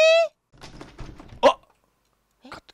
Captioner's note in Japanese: ガタガタガタ